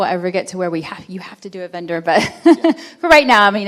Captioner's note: chuckles